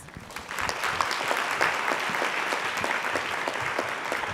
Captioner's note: audience applauding